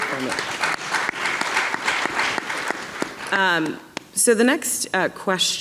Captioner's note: audience clapping